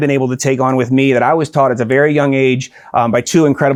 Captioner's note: none